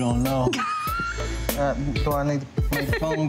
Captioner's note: laughs